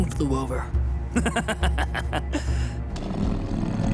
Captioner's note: laughing